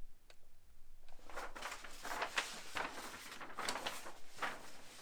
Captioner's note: paper rustling